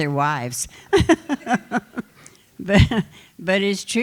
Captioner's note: laughter